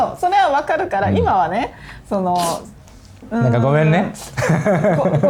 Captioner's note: laughs